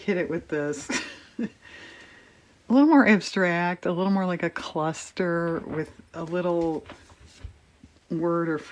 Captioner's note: laughs